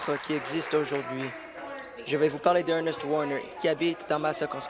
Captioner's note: applause